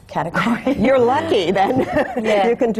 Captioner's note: laughs